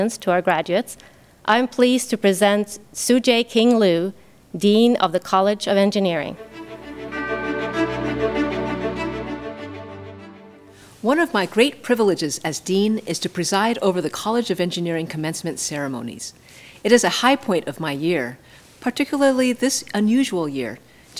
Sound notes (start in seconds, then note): 6.3 bright orchestral music; 6.8 bell dings